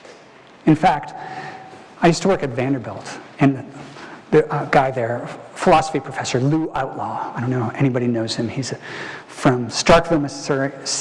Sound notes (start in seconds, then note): none